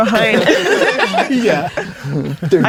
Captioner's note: players laughing